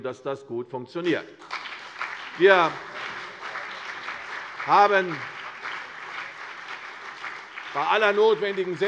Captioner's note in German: Beifall CDU und BÜNDNIS 90/DIE GRÜNEN